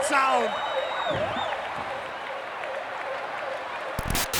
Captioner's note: crowd cheering